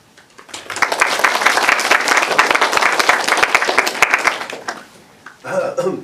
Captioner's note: applause